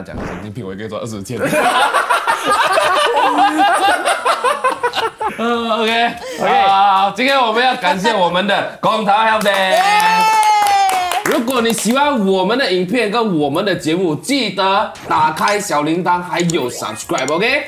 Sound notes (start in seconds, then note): 1.4 laughs